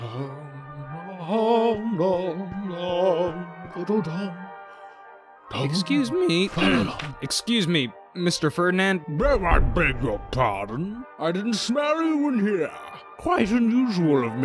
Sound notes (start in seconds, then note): 0.7 singing; 3.8 voice breaks; 6.5 ahem